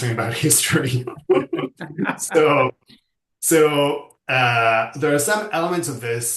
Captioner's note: laughs